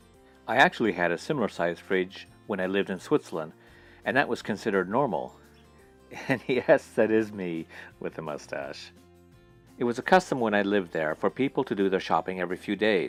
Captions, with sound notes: I actually had a similar size fridge when I lived in Switzerland and that was considered normal [chuckling] and yes that is me with the mustache It was a custom when I lived there for people to do their shopping every few days